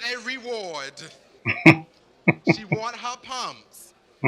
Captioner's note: chuckling